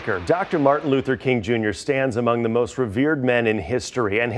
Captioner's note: applause